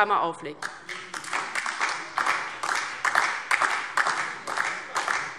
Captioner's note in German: Beifall DIE LINKE